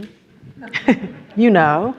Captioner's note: audience laughs